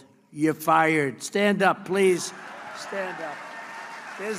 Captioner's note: applause